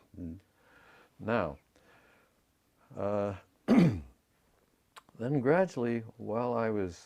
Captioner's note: cough